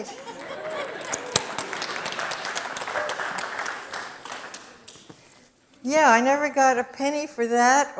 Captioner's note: audience applause